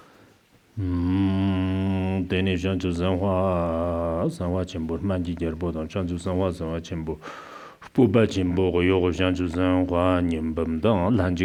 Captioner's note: giving oral transmission in Tibetan